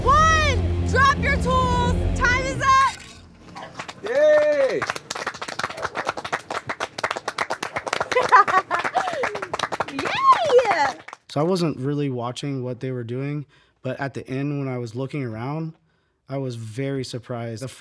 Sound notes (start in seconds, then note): 3.5 judges applaud; 8.1 laughs